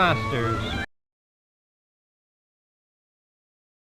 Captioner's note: audio missing